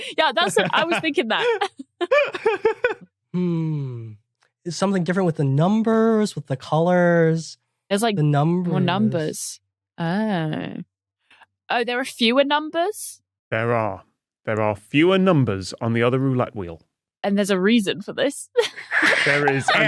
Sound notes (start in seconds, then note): 1.8 wheezes